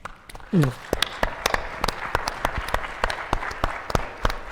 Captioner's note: attendees applauding